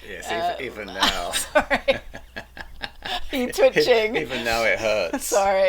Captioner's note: laughing